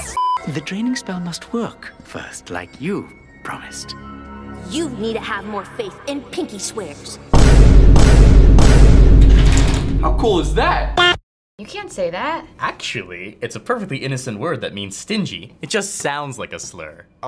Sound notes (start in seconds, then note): 7.3 boom x2; 7.3 boom x1; 7.3 boom x3